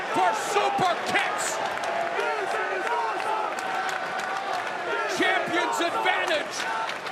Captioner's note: crowd cheering